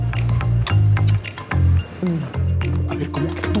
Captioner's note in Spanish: Chasquea la lengua